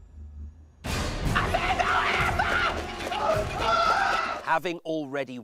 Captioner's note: screams